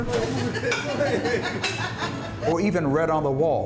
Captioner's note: employees laughing